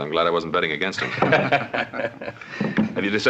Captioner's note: laughing together